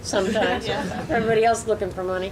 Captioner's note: audience laughs